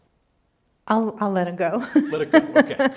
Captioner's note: laughing